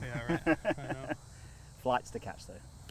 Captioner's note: laughing